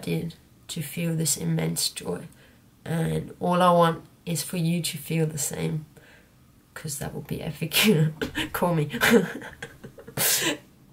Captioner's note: laughs